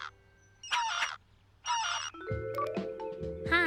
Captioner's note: cell phone ringing